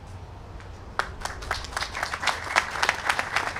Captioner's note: applause